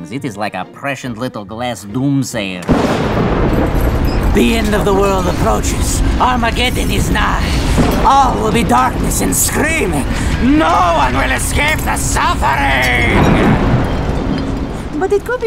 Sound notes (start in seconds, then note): 3.7 tinkling and wind